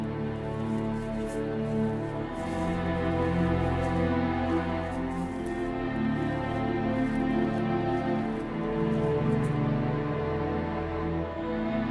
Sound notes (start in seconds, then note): none